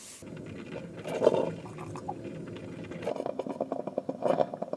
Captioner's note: coffee brewing